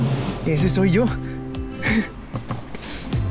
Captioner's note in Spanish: Ríe